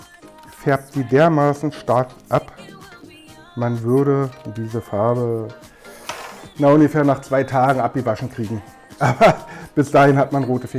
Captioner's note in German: lacht